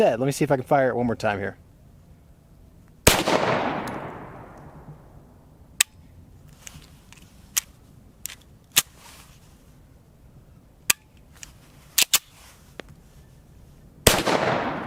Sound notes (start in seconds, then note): 3.0 pistol fires; 5.8 dry fires; 10.9 dry fires; 14.0 pistol fires